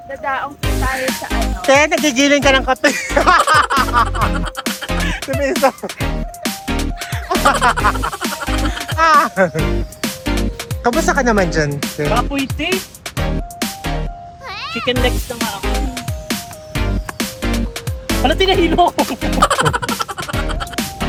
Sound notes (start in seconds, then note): 2.5 laughing; 2.9 laughing SFX; 7.8 laughing; 18.2 laughing; 18.3 laughing SFX